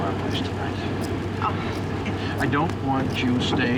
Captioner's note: laughs